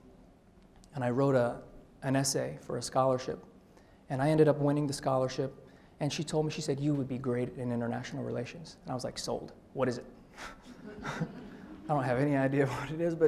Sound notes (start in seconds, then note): 10.7 audience laughs